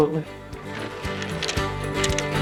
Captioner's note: wood clacking; easygoing music